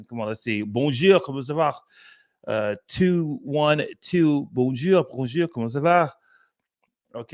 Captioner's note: speaking french